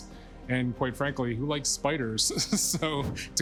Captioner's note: laughs